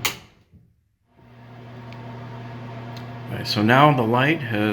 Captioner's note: fan whirring